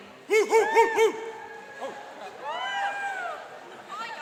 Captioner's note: cheering and applauding